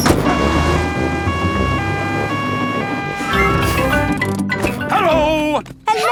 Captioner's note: siren wailing